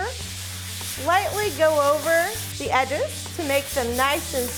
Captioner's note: sandpaper scratches